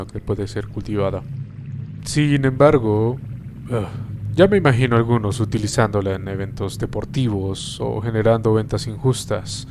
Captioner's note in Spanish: Suspiro